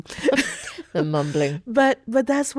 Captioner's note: laughing